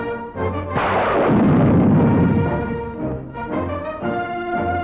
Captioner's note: dramatic military music; guns blasting